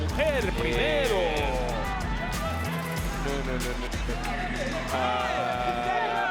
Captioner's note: laugh